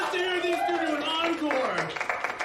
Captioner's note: applauding, cheering